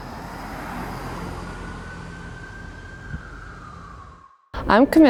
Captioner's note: sirens blaring in the distance